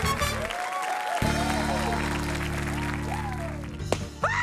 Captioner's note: cheering, applause continue; shrieks